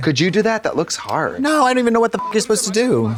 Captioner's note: beep